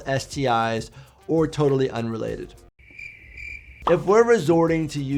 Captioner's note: crickets chirping